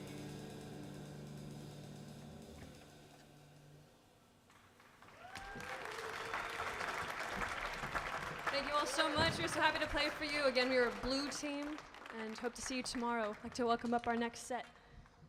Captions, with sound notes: (audience clapping) - Thank you all so much. We're so happy to play for you. Again, we were blue team and hope to see you tomorrow. I'd like to welcome up our next set.